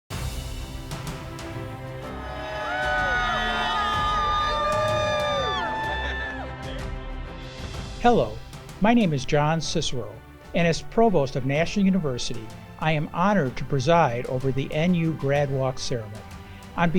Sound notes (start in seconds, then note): 0.2 upbeat music; 2.0 students cheer